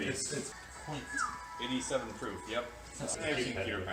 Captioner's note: whistle